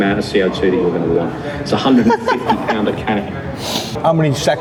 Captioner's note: laughing